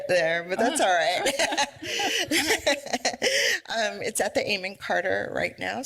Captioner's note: laughs